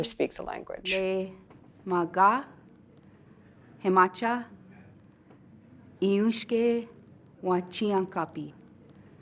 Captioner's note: speaking Lakota